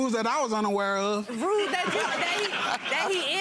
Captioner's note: audience laughs